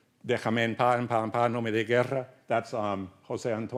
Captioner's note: speaks Spanish